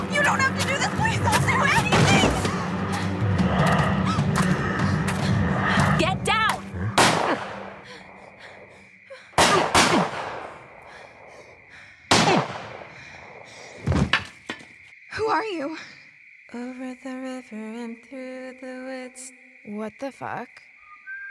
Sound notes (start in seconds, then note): 7.0 gunshot fires